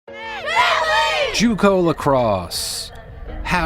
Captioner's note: players shout "family" in unison